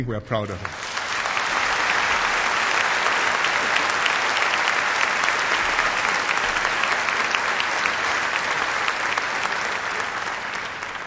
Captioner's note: applause